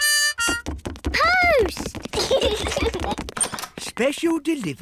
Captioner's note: both giggle